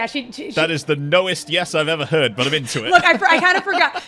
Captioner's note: laughs